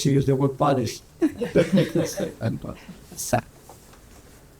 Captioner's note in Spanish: risas